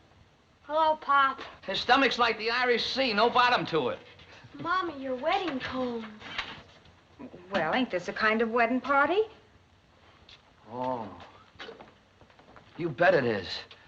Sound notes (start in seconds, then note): 10.7 johnny exclaims